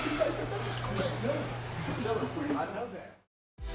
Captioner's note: commentator chuckling; Heyman chuckling